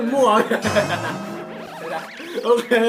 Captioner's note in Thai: เสียงหัวเราะ